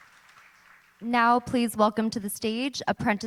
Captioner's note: applauding